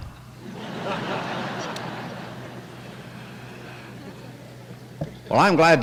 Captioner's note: laughter